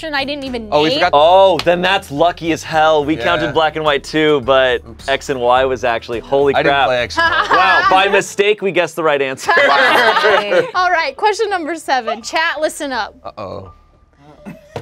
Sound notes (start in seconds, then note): 9.4 laughing